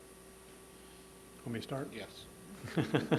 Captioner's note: laughter